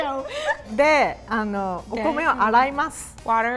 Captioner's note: speaking in Japanese